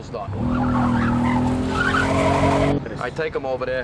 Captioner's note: tires screeching